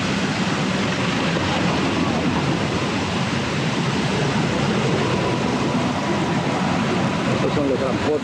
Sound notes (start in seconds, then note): 0.0 river running